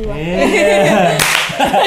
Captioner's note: clap!